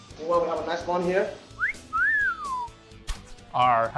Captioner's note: whistles